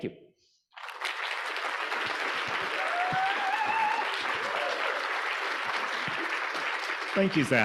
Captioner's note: audience applauding; audience cheering